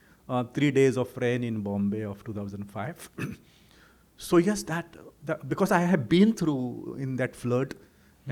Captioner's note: clears throat